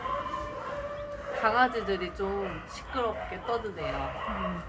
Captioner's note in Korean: 엄청난 강아지 소리